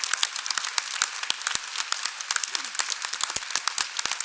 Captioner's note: applause